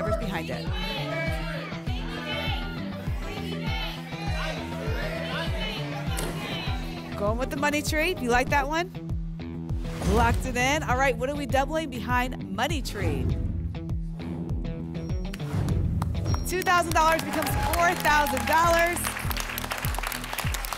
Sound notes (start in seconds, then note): 0.6 audience shouting icons; 13.5 whoosh; 19.1 applause and cheering